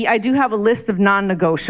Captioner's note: none